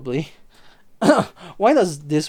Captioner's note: clears throat